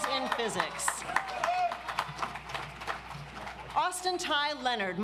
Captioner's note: audience applauds